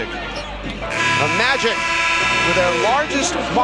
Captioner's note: buzzer buzzing